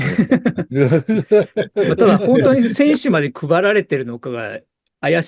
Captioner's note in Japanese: 笑い